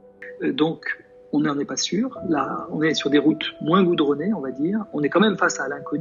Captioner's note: man speaking a foreign language